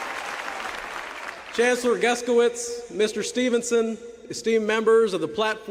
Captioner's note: applause